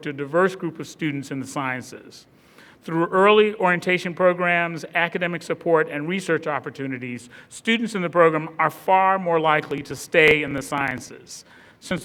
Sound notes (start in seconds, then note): none